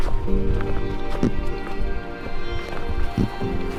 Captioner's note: footsteps